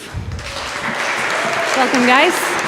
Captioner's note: audience applause